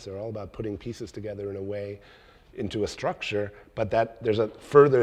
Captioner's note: none